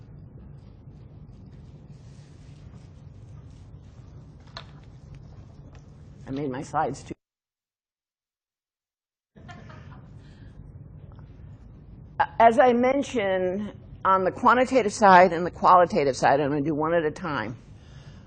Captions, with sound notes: I made my slides too (audio cuts out). (student laughs) As I mentioned, on the quantitative side and the qualitative side, I'm gonna do one at a time,